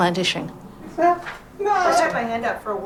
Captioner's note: calls out